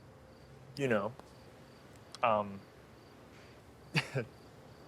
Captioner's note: laughs